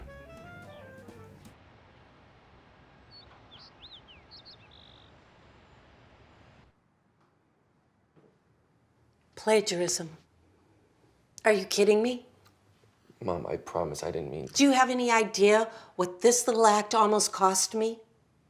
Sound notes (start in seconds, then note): 1.4 birds chirping